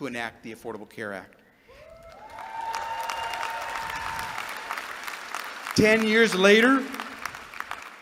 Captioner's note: applause